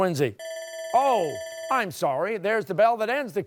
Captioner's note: bell dings